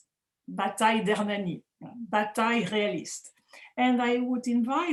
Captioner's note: speaking french